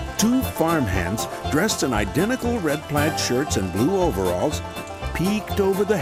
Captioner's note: none